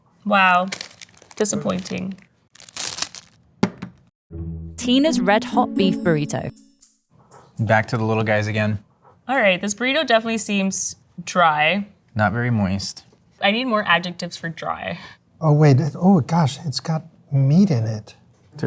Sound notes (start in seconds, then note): 2.4 wrapper ripping; 2.5 burrito thumping